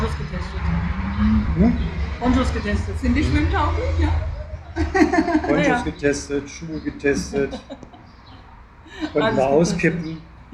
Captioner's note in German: gelächter